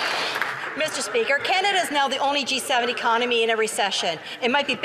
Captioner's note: some Applause